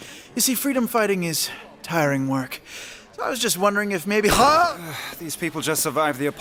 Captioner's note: yelps